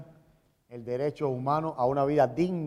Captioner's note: speaking in Spanish